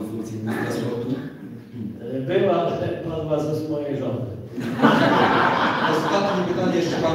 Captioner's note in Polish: Śmiech z sali